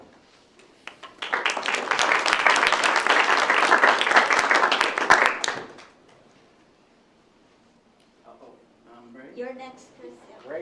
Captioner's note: ? applause ?